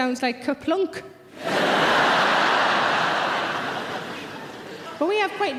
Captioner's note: audience laughing loudly